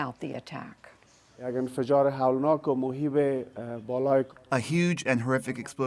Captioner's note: through translator